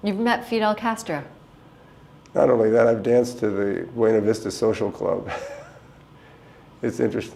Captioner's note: chuckle